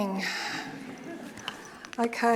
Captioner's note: audience laughing